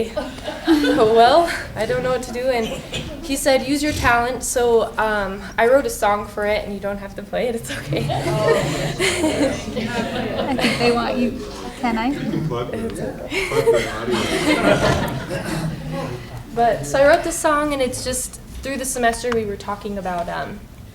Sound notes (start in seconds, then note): 9.7 laughing; 11.9 laughter